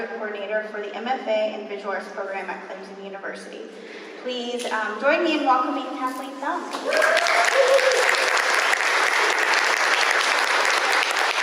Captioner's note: applause